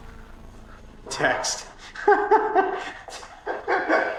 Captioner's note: laughter